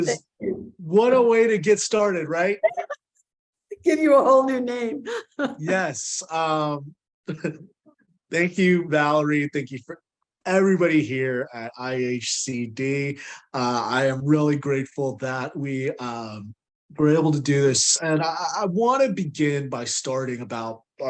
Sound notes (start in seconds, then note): 2.6 laughing